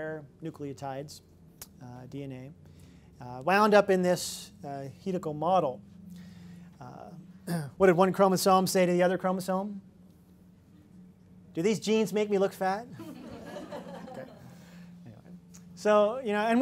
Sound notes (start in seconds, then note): 12.9 laughter